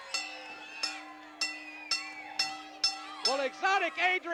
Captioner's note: bell dinging